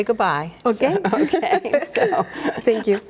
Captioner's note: laughs